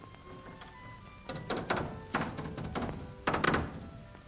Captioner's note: hammer bangs